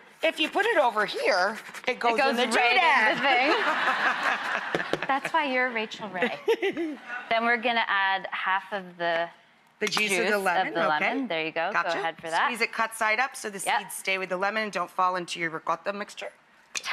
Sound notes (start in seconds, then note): 3.1 laughing; 6.2 giggles